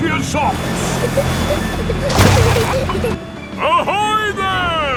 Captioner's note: peppa and george giggling